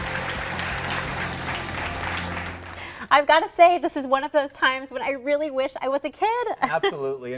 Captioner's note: cheers and applause